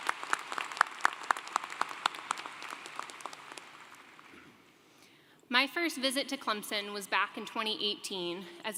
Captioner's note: applause